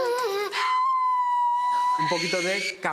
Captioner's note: shouts